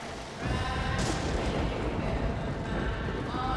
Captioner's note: thunderclap drowns singing